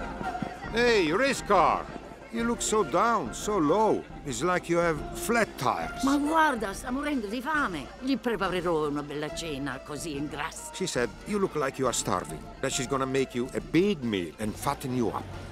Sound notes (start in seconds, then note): 5.9 speaking in Italian